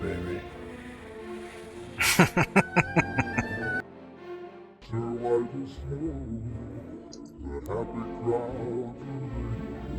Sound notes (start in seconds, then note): 2.0 laughing